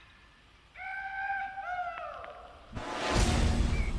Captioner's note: driver yelling